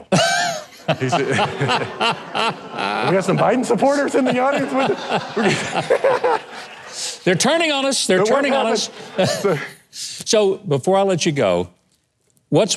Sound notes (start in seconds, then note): 0.2 audience and host laughing; 5.3 everyone laughing; 8.2 host chuckles